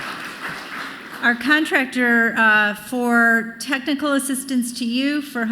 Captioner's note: applause